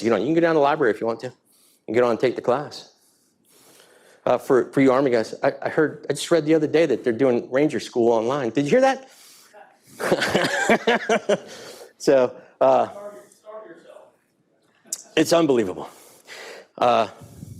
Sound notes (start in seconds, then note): 9.9 laughing